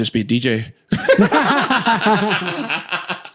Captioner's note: laughter